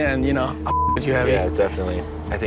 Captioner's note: beep